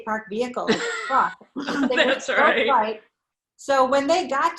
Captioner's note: chuckles